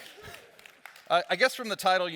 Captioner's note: audience claps